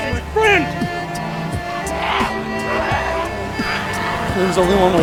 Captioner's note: vicious growling